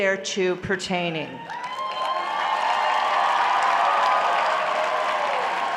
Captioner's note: applause